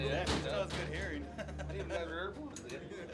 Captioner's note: laughs